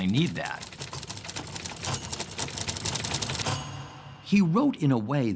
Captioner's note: typewriter keys clacking